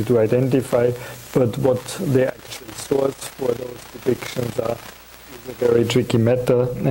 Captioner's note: audio static